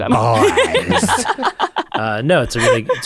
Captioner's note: laughs